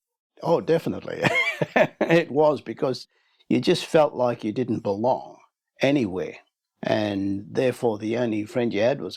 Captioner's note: laughs